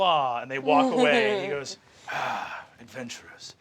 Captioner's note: sighing